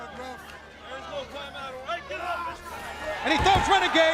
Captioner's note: crowd chatter